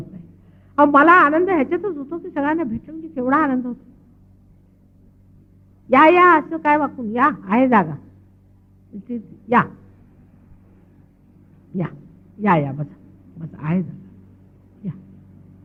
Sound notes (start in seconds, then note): 3.9 speaking in marathi